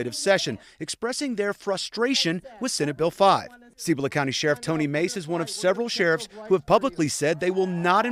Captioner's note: crowd chanting "usa"